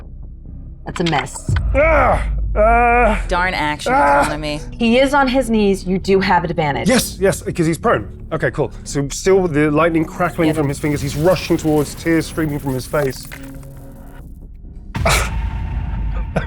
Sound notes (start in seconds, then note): 1.6 groaning